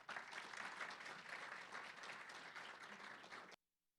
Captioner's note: applause